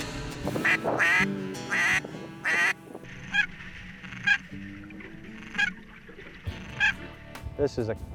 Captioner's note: duck calls